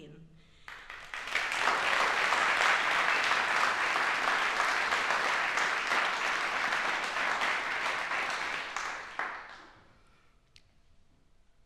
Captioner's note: applauses